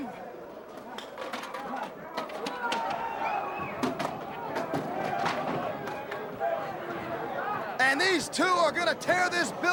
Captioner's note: crowd chatter